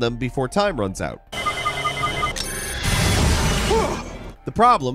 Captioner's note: timer beeping